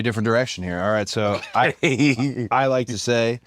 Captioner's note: laugh